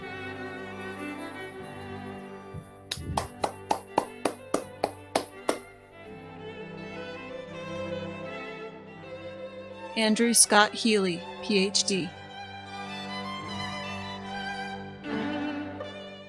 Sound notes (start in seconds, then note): 0.2 uplifting chamber music; 2.9 applauding